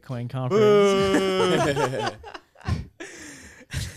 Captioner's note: laughing